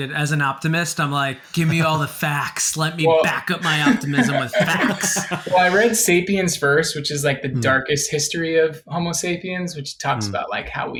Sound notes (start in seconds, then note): 5.4 laughing